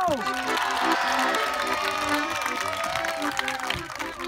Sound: cheering

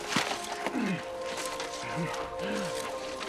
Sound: groaning

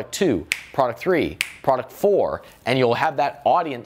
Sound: snaps

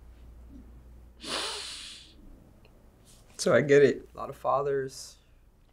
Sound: sniffs

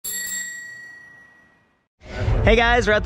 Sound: bell ringing

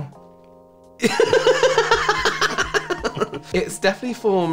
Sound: pretending He's Not Hurt Laughter

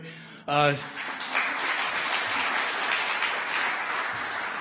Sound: audience applause

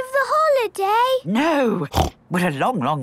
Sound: snorts

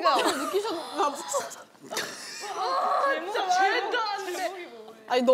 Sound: failed at holding in her laughter

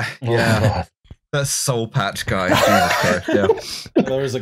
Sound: laughter

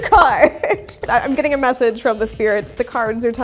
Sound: laughs; bubble pops

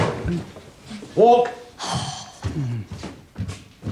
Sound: sighs

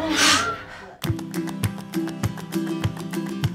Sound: inhale, exhale

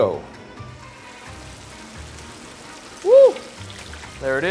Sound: oil sizzling

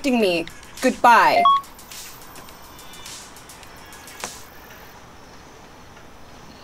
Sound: cell beeps

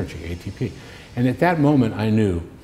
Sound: none

